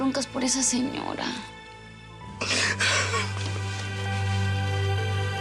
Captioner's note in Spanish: sollozos